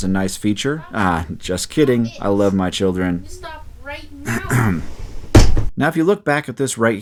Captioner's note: sounds of kids talking; children fighting; door slams